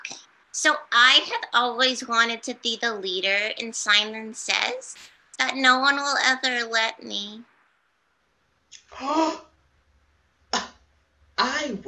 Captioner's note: gasps